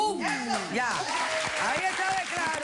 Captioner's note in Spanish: Aplausos